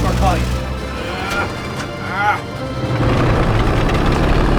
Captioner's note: grunting